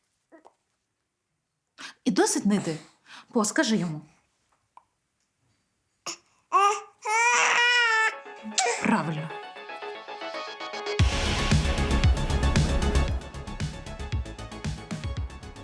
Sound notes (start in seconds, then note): 6.5 Poe cries in displeasure